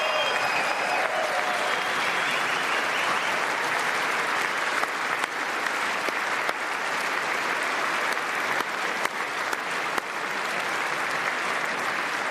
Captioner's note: applause